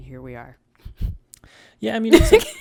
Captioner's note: laughs